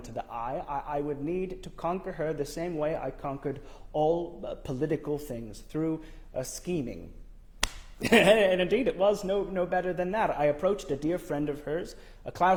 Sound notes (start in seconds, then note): 8.0 laughs